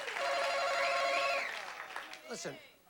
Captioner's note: bell chimes